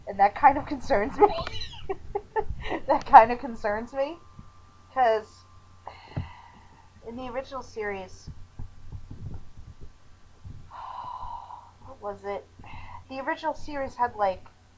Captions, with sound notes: and that kinda concerns me! (wheezing laughter electric boogaloo) That kinda concerns me! 'Cuz... (sigh) In the original series... (longer sigh) What was it? The original series had, like...